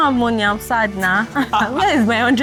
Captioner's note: laughs